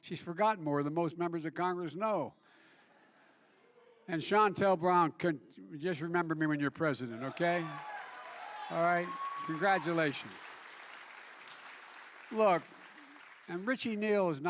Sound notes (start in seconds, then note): 3.5 laughter; 7.1 applause